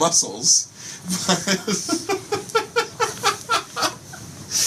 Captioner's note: laughter